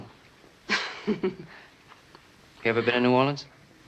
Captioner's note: chuckles